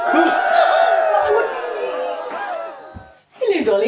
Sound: cheerin

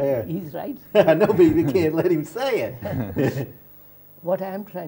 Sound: laughs

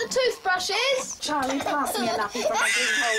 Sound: Jim wailing

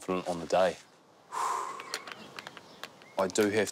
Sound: exhales

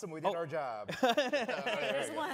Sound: laughter

